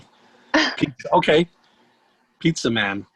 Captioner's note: chuckles